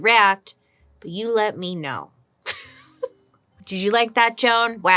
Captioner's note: laughs